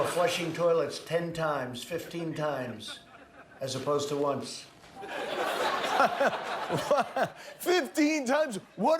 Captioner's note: laughter